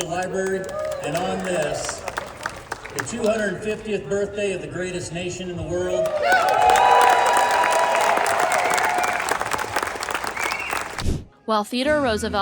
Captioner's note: applause and cheering